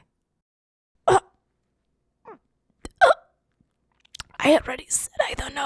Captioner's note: chocking